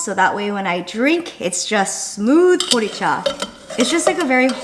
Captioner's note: speaking in foreign language